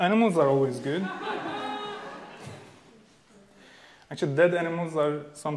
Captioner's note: audience laughing